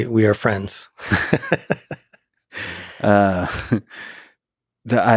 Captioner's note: Lex laughing